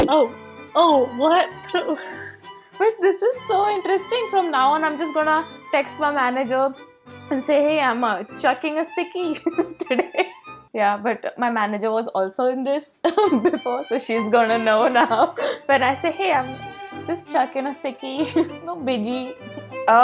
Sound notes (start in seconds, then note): 1.9 laughs; 9.4 laughs